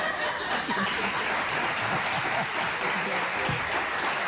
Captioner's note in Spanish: aplausos